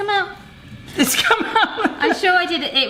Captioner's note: laughs